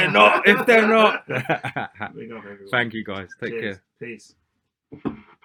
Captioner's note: laughter